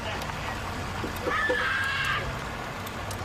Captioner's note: maniacal laughter; girl screaming